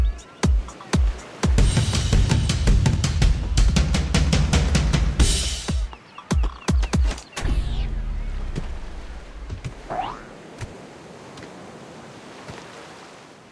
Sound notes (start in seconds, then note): 2.2 drum sound; 6.0 beating sound